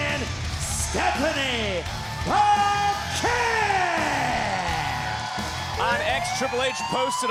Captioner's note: crowd cheering